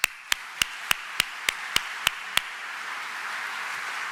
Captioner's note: audience applauds